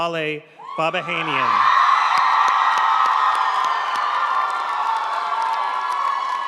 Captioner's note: audience cheering and applauding